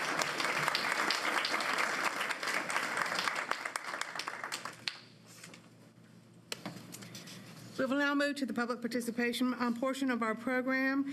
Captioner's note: applause